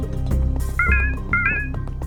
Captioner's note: notification